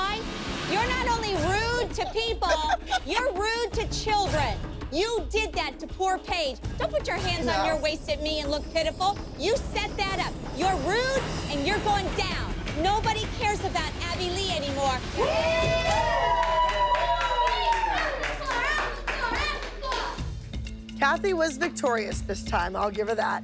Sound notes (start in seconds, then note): 15.1 cheering and applause